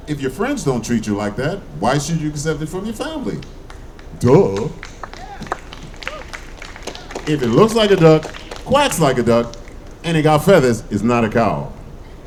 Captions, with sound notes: If your friends don't treat you like that, why should you accept it from your family? Duh! (audience clapping) If it looks like a duck, quacks like a duck, and it got feathers, it's not a cow.